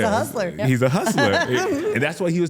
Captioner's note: laughs